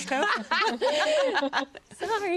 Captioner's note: all laugh